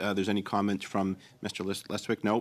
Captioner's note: speaking French